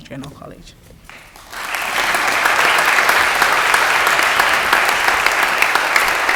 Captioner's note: audience applause